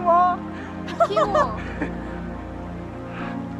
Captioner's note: laughter